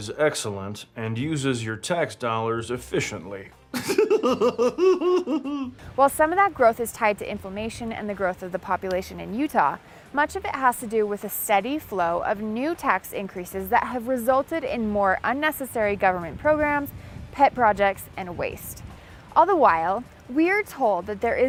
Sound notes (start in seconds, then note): 3.7 laughing